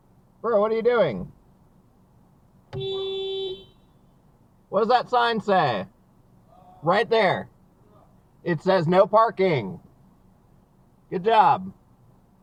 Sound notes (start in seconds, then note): 2.8 beeeeep!